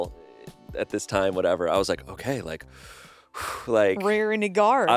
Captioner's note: sighs